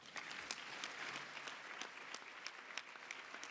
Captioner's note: applause